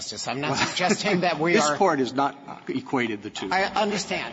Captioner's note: laughter